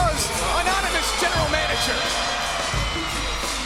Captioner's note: crowd cheering